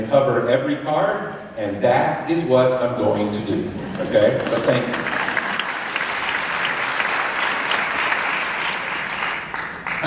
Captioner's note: applause